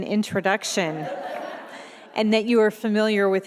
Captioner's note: audience laughing